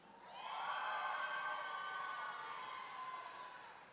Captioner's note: audience cheering